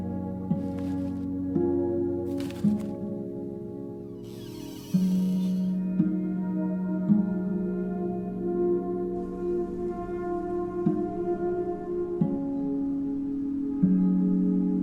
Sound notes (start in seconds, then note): 4.2 door squeaks